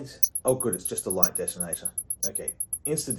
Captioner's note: unsettling timer noises intensify